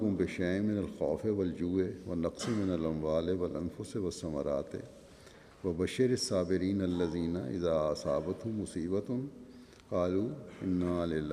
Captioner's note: Arabic